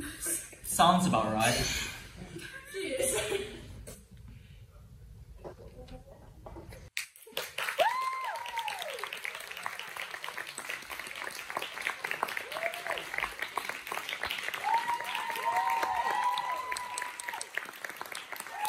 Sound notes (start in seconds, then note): 7.0 applause and light cheers